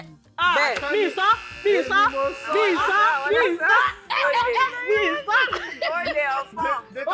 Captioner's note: buzzer pressed; laughs